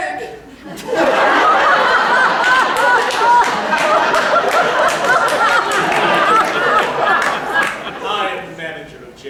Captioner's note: peals of laughter